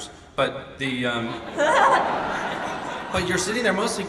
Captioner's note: audience laughs